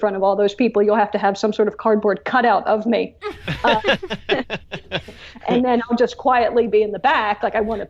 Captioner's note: laughs